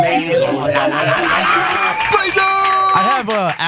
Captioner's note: applause